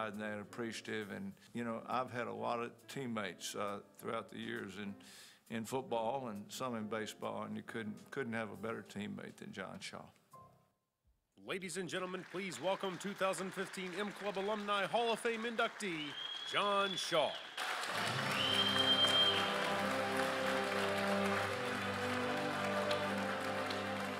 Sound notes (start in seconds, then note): 11.5 voiceover; 17.2 crowd cheers and applauds; 19.1 congratulatory music